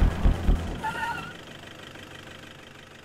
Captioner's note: Brakes